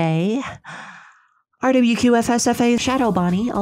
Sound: hurriedly recited

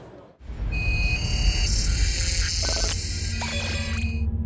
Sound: electronic buzzing

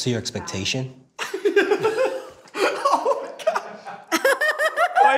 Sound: group laughs; laughs

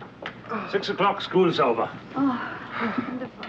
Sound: Peter sighing

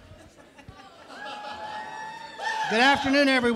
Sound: laughter and cheering

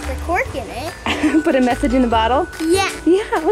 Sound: chuckling

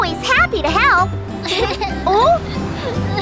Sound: crying

